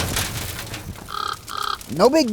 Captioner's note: car clattering; fire crackling; squawks